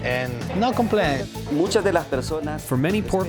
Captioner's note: speaking Spanish